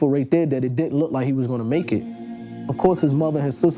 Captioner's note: heart rate monitor beeping